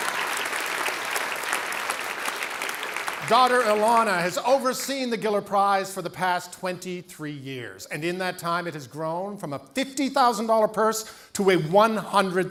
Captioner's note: cheering and Applause